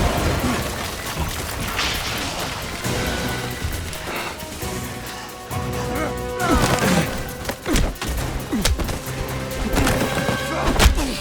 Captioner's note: groaning